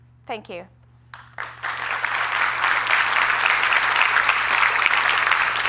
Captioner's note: applause